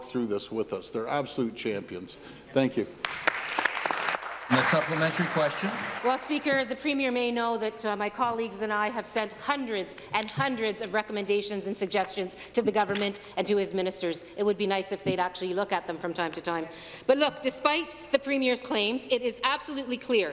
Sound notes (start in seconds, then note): 7.2 applause